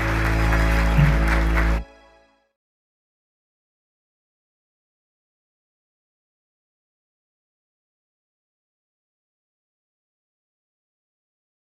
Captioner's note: applause